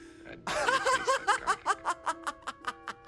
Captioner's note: laughing